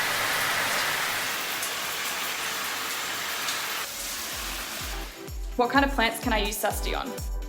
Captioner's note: water running